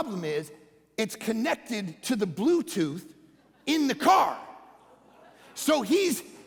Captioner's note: congregation laughing